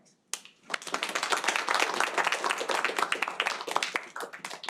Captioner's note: audience clapping